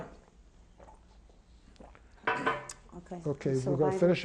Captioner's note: drinks